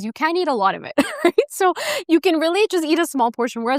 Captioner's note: laughs